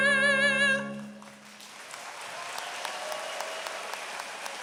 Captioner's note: applause